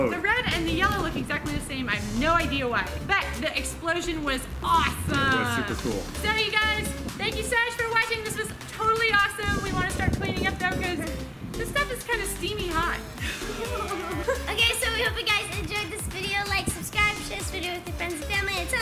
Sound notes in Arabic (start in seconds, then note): 13.2 يضحك; 13.2 أمي تضحك